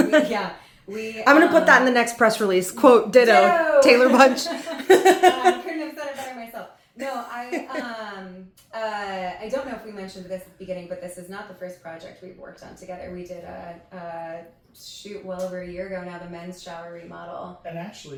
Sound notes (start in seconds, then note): 3.2 laughs